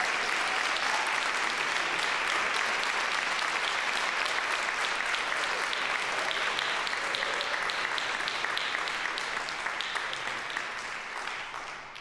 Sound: applause, cheering; applause

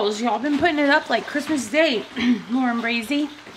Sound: clears throat

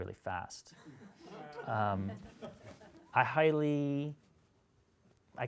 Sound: audience laughs

